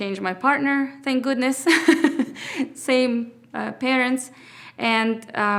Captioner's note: laughs